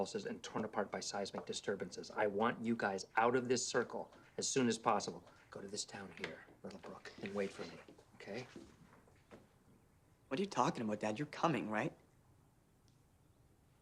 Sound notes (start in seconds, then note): none